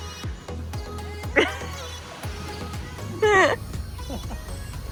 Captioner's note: laughs